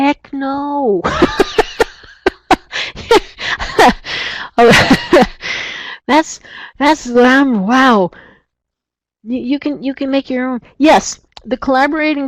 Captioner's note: laughs